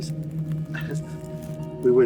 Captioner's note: scoffs